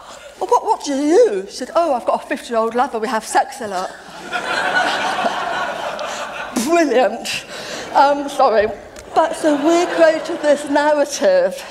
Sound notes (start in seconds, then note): 4.0 laughter